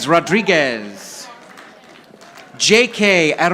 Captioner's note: audience applauding